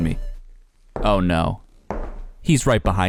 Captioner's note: footsteps thumping